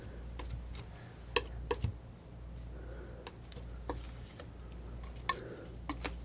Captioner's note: tapping